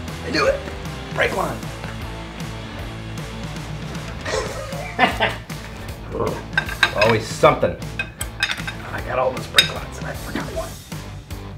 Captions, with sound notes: I knew it, brake line! (laughing) Always somethin'! I got all those brake lines, and I forgot one.